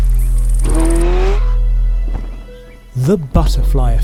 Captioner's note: engine revving; ominous music